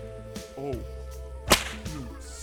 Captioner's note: smack